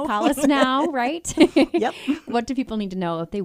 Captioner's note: laughs